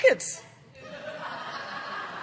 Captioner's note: laughter